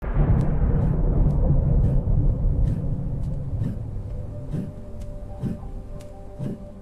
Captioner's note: wind blowing